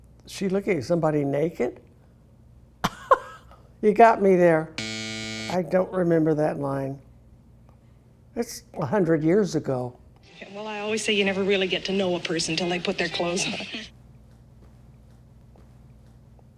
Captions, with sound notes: She looking at somebody naked? (laughing) You got me there. (buzzer buzzing) I don't remember that line. It's 100 years ago. Well, I always say you never really get to know a person till they put their clothes on.